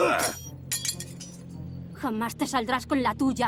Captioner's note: clinks